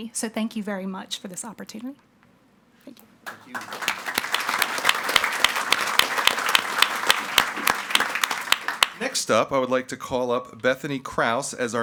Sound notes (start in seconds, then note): 3.2 audience clapping